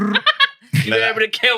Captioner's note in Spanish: Imita una explosión